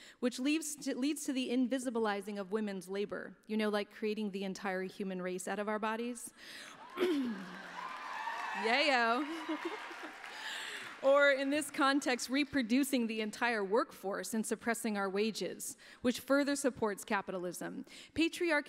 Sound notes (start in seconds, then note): 6.7 applause